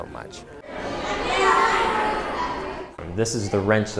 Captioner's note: children talking